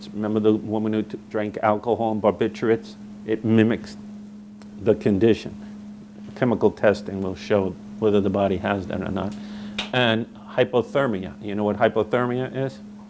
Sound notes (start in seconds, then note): none